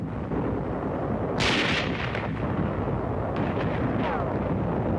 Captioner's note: guns firing